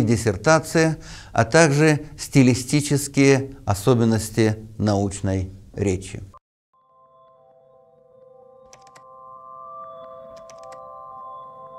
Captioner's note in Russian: звуки клика мышкой